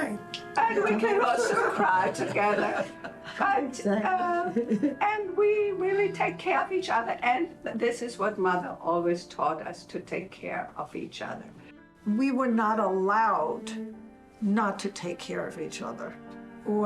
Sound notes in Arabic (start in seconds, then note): 3.5 العائلة تضحك